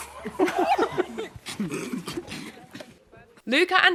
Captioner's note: men laughing